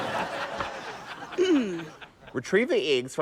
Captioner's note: clears throat